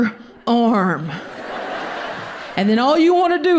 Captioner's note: audience laughs